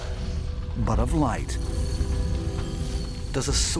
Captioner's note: shimmering sound